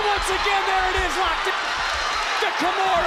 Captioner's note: audience cheers